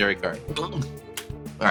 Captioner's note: gulps